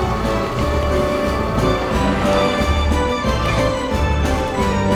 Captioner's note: children laughing; bell rings